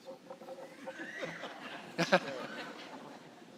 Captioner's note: laughter